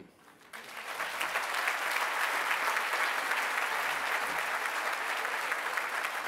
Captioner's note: applause